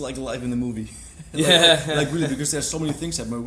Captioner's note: laughs